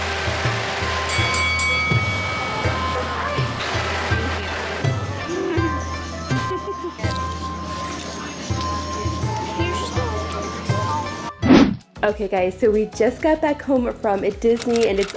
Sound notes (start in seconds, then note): 1.4 bell dinging; 9.3 upbeat music